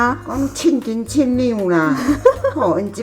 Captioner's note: laughs